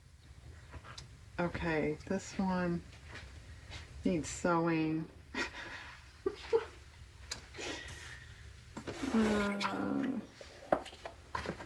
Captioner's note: laughs